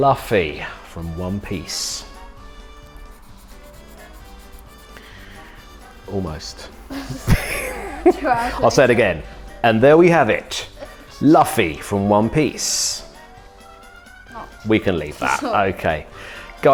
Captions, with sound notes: Luffy from one piece. Almost. (chuckles) I'll say it again, and there we have it. Luffy from one piece. we can leave that, okay.